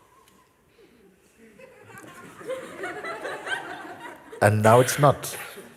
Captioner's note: Lachen